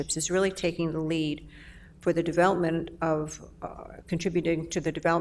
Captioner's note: none